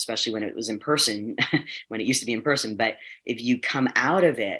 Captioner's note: chuckles